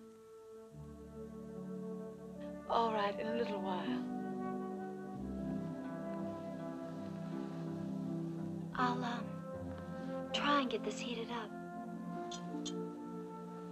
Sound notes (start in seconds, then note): none